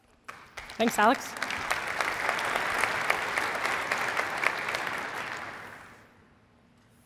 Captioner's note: applause